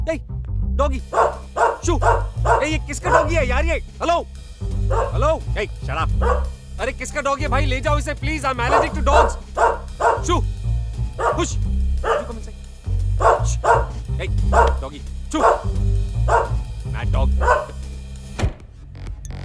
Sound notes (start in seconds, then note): 8.6 dog barking; 18.3 door closes